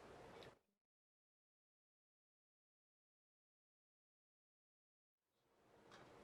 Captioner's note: mute